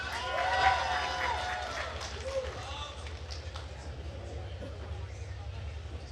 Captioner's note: attendees cheering and applauding